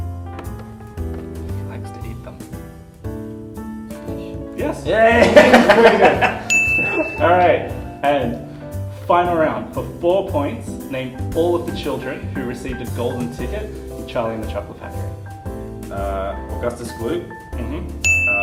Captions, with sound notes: I dunno He likes to eat them. Fish? Yes! (ding!) (laughter) And, final round: for four points, name all of the children who received a golden ticket in Charlie and the Chocolate Factory